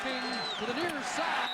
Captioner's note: applause